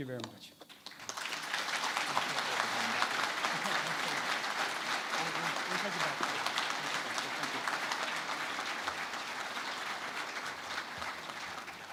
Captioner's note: applause